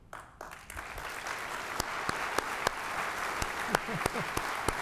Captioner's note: applause